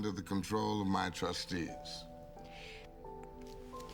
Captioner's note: sucks In Breath